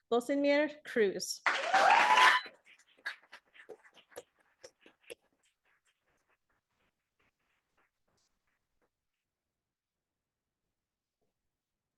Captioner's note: audience applauding